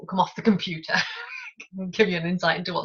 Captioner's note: laughing